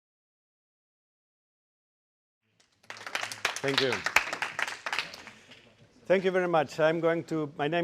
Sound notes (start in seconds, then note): 0.0 applause